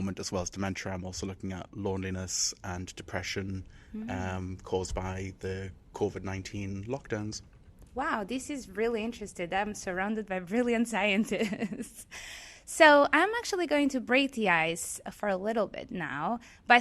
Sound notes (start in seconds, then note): 11.3 chuckles